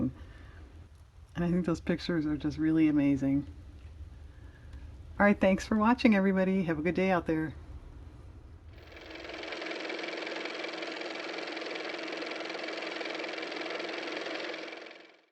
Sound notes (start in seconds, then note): 8.7 car motor